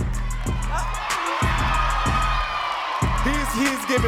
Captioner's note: audience cheering and clapping